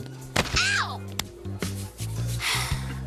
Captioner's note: sighs